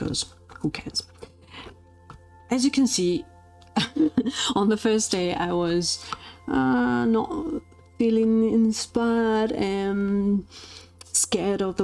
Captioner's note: laughs